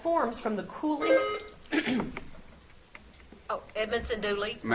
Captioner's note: buzzer beeps